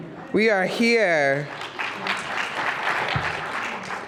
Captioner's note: applause